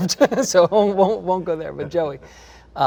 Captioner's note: laughs